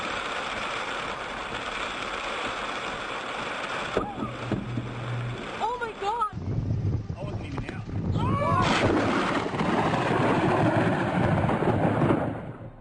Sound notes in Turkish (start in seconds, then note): 0.1 yağmur sesi̇; 2.9 yildirimin düşüşü ve çatirti sesleri̇; 6.2 yildirimin düşüşü ve i̇nsanlarin bağirmasi